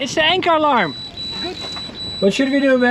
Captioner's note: anchor alarm beeps